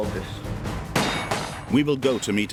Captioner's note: guns firing